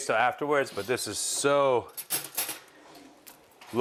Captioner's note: cutlery clanging